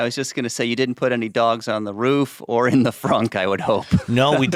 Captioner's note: laughs